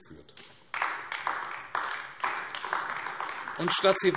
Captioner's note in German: Beifall AfD